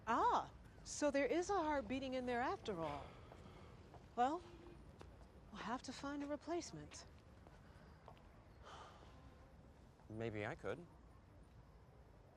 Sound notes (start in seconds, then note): 4.0 sighs